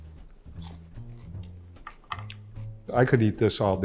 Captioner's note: crunching peppers